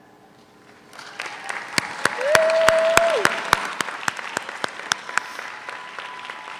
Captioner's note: audience applauds; audience cheers